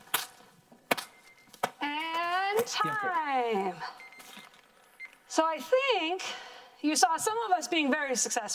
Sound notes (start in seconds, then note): 1.1 timer beeping